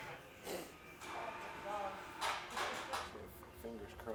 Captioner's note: machine whirring, clacking